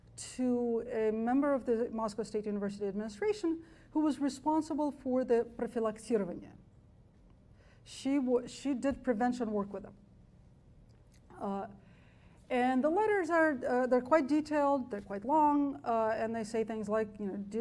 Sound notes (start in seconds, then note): 6.0 speaks foreign language